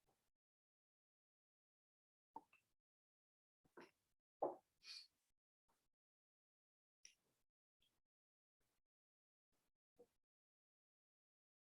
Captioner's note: silence